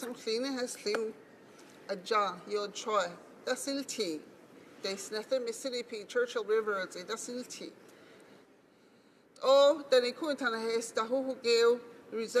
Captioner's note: speaking Alternate Language